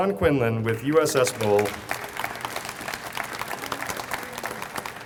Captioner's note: audience applauds